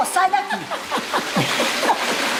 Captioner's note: laughs